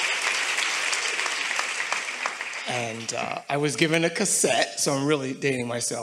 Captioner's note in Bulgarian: Аплодисменти